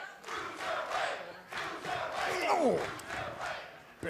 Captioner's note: fans chanting